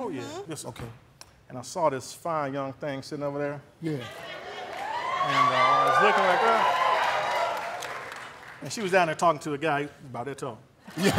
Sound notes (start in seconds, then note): 4.5 audience cheering; 10.8 laughter